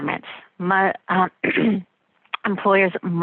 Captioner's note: clears throat